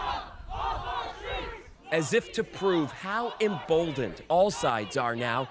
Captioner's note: chanting